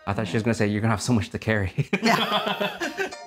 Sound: laughs

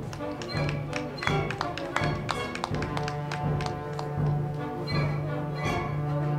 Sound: crowd clapping; band music

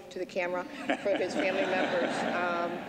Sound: laughter

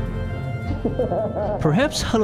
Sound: laugh faintly echoing

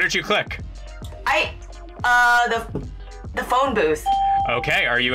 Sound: bell rings

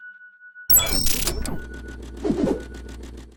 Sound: electronic interference; whooshing

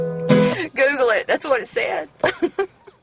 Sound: laughs

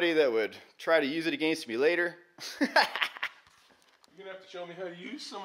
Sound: laughs

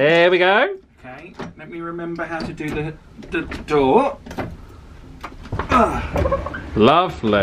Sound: grunts

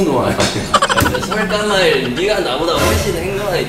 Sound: laughter

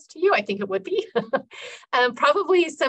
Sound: laughing

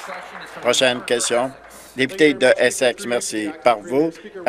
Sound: some Applause

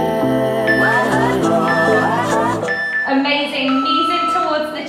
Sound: beeping

